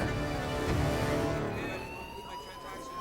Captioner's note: fire alarm ringing